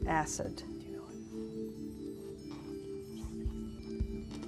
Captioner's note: whispering